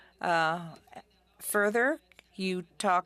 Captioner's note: speaking French